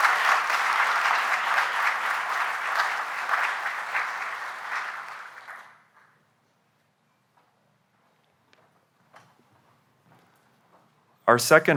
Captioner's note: applause